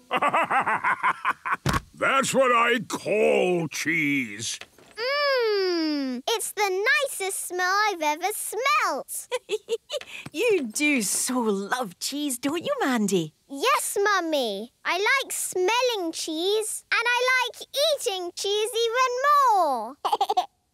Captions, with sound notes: (bursting laughter) That's what I call cheese! - Mmmm! It's the nicest smell I've ever smelt! - (giggling) You do so love cheese, don't you, Mandy? - Yes, Mummy! I like smelling cheese. And I like eating cheese even more!